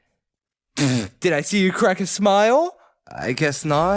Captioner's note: blows raspberry